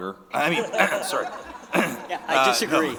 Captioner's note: audience laughing